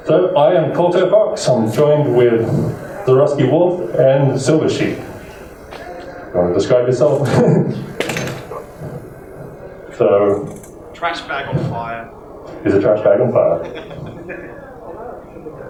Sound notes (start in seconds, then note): 8.4 chuckles; 13.3 chuckles